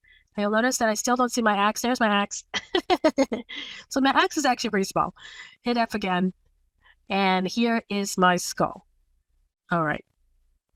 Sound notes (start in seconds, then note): 2.6 laugh